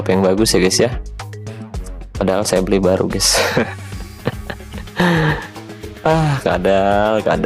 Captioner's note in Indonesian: tertawa